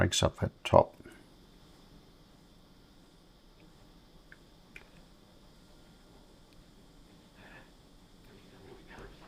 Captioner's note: silence